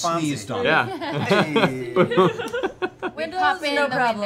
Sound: laughing

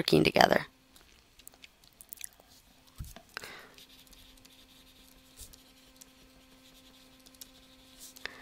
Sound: writing

